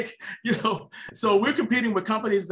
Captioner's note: laughs